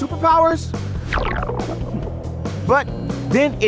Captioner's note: smoke puffing